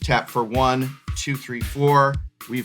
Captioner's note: counting